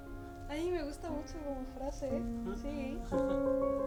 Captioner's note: laughing